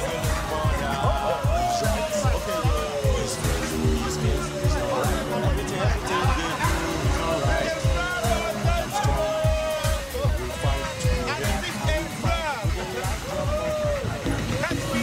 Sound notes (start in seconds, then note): 1.5 people cheering; 5.0 all chattering; 11.0 singing in foreign language